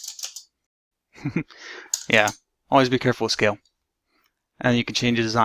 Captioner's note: laughs